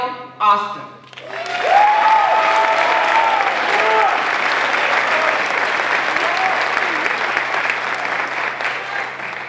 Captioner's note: applause